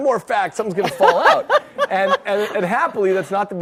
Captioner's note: audience laughs